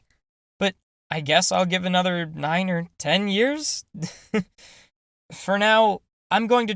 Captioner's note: chuckle